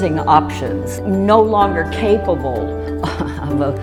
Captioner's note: laughs